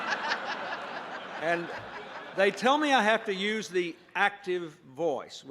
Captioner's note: laughter